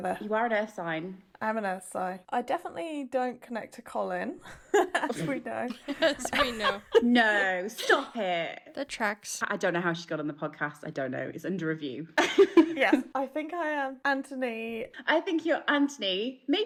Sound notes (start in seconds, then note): 4.5 laughing; 12.2 laughing